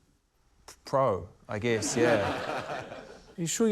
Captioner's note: laughter